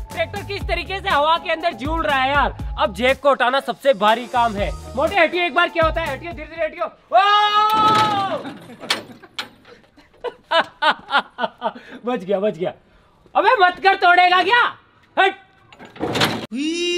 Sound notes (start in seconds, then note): 10.1 laughing